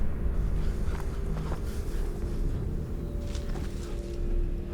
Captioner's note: speaking in a foreign language; Tariq panting; tense music